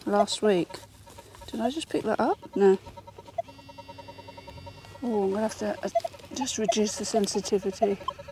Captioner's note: beeping